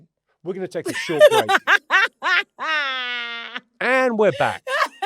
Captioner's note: London laughs